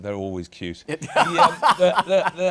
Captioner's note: laughter